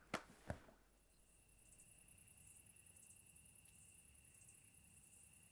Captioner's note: crickets chirping